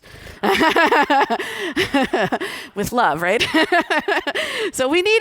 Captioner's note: laughter